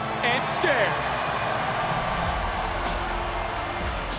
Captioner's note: crowd cheering